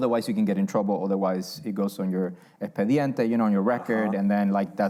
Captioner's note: spanish